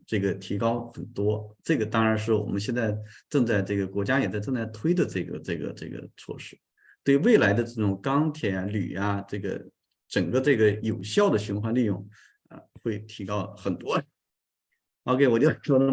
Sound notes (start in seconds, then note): 5.7 continues to speak in Chinese